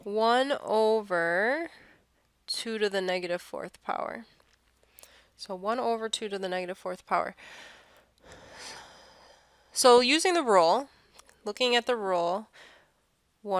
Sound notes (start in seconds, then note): 8.2 sigh